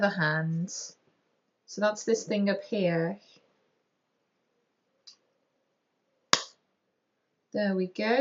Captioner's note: pop